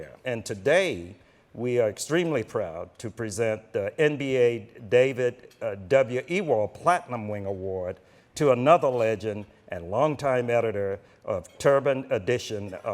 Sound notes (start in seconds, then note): none